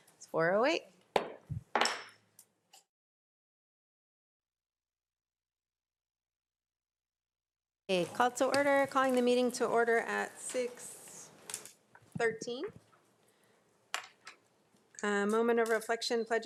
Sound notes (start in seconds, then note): 1.7 gavel pounds